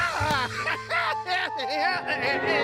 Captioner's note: laughs joyously